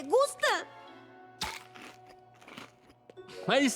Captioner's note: munching